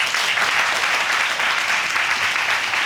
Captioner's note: audience applauding